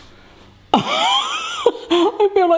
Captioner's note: laughs